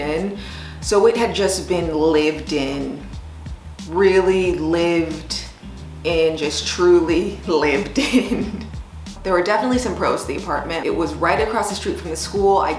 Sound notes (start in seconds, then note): 7.9 laughs